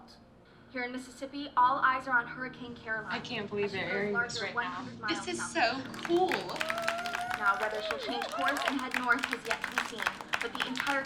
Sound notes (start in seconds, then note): 5.8 cheers and applause